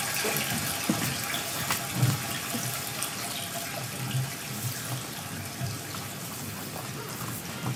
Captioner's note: water trickling continues